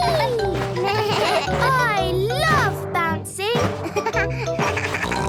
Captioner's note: giggles; bleating; giggles, snorts